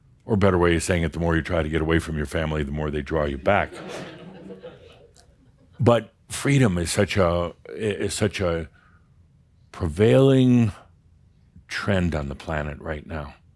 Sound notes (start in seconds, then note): 3.7 some chuckles